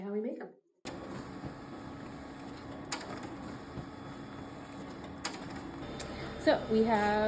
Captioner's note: printing running